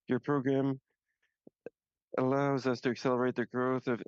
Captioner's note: speaking French